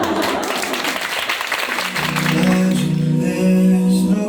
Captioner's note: applause